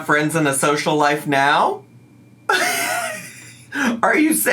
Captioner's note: laughs